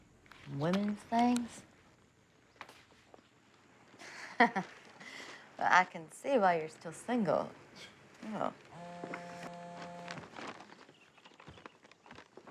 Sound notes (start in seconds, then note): 7.7 scoffs; 8.7 cell phone buzzes